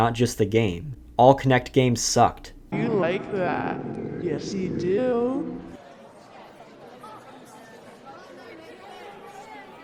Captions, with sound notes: and not just the game. All Kinect games sucked. - You like that. Yes you do. (crowd bustling)